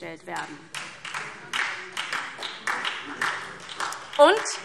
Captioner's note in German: Beifall SPD